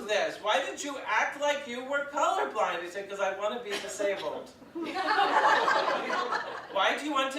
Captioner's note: audience laughs